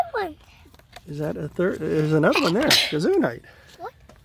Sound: sneezes

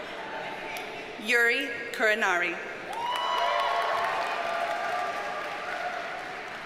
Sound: audience cheers and applauds

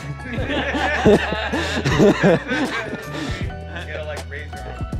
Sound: group laughing

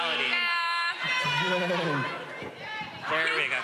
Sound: audience shouting

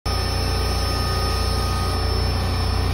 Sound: robotic machine noises

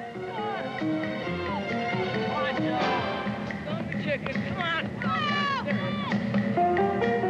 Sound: kids playing

